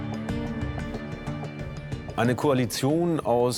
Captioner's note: in German